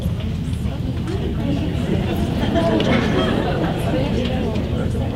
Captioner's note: audience murmuring